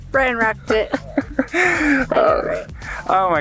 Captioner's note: laughs